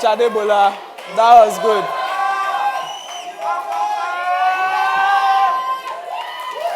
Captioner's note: crowd cheering